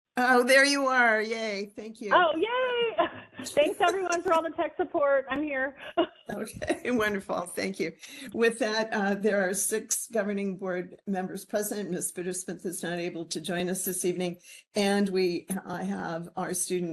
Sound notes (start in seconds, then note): 2.1 laughing